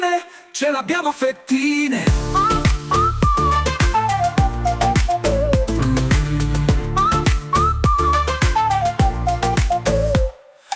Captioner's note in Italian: mmm